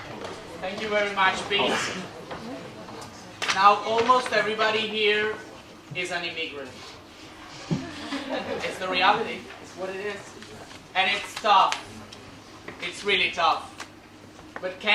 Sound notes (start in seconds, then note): 7.5 laugh